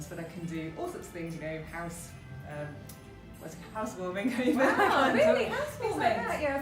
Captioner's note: laughs